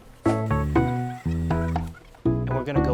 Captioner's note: sped up voice squeaks